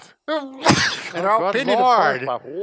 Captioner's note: sneezes